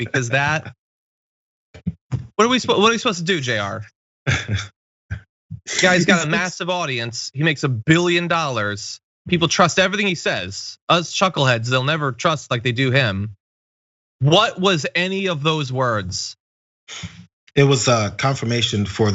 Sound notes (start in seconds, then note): 4.2 laugh